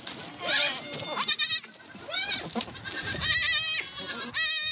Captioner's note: squeals